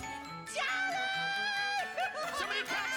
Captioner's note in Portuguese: laughs